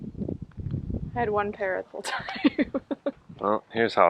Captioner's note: she laughs